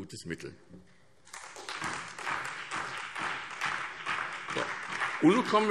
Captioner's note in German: Beifall SPD und DIE LINKE